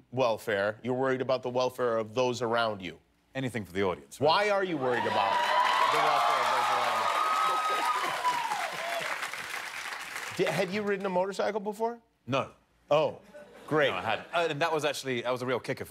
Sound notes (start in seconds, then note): 7.3 cheers and applause